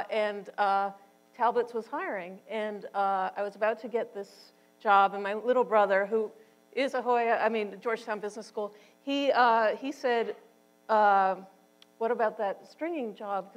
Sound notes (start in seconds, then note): none